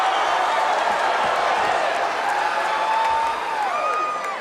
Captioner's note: audience cheering